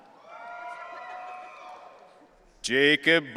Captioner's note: audience cheering